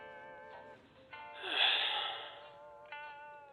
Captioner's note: sigh